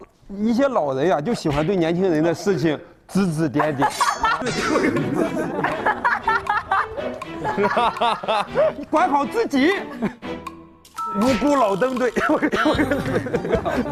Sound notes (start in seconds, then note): 6.1 hahaha